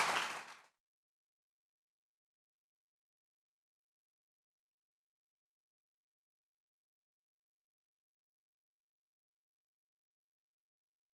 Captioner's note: applause